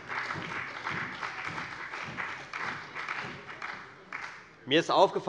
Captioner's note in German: Beifall bei der FDP und der SPD